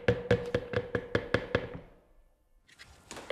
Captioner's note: knocking